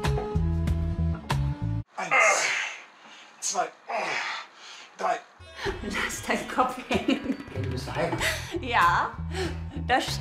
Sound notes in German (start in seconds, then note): 2.0 Ächzen